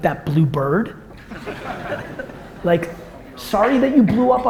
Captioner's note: audience laughter